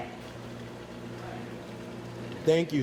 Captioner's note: machinery humming in background